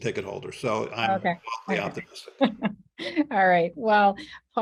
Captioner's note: laughs